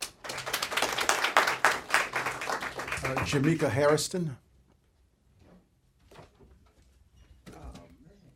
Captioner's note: applause